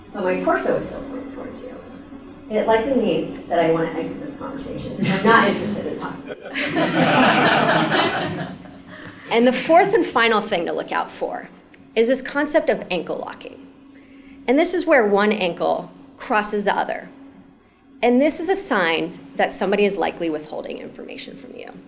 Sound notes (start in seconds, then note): 6.2 laugh